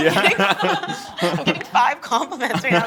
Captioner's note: laughing